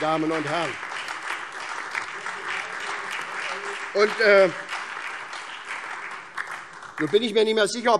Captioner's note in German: Beifall SPD, vereinzelt Freie Demokraten und DIE LINKE